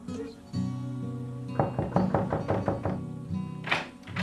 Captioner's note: KNOCKlNG AT DOOR